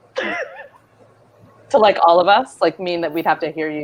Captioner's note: laughs